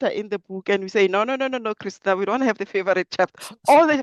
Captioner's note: both laugh